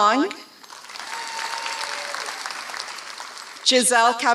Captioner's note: applause